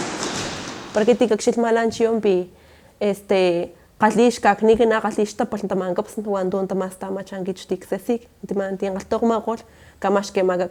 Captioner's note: speaking in Totonaco